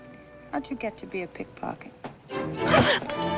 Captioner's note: gasps